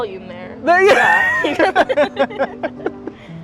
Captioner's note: both laughing; calm music